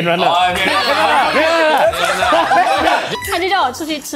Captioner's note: laughs